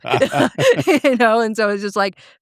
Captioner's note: both laughing